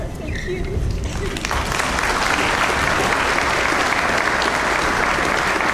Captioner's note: audience applauds